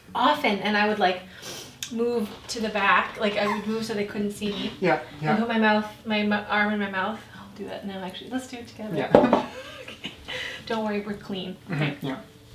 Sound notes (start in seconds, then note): 9.2 chuckles